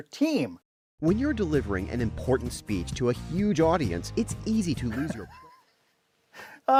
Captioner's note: voice-over